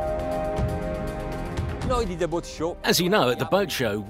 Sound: speaking in foreign language

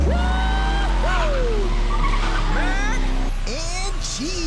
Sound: motors revving

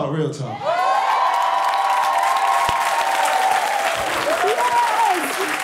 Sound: cheering and applause

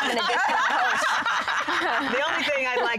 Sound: laughing

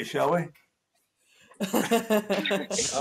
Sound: laughing

